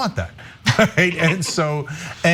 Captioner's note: laugh